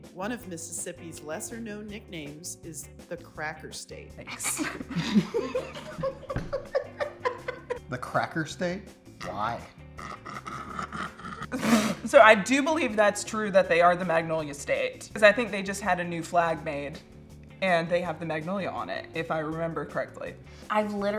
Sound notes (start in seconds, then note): 4.4 both laugh; 10.0 laughs; 10.0 snorts